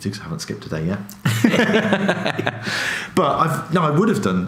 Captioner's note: laughs